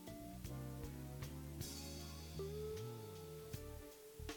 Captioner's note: none